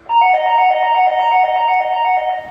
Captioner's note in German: Türklingel